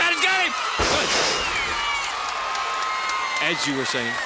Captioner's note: crowd cheering